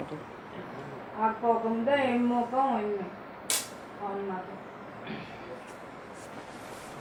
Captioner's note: foreign